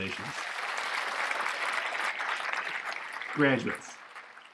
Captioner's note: applause